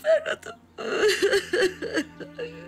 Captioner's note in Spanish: Llora